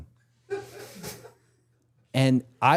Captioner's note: crew laughing